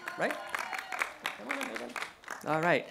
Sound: cheering

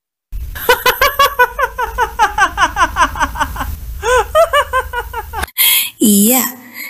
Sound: laughs

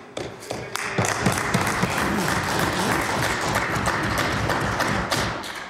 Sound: some Applause

